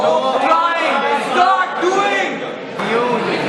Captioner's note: shouts from the crowd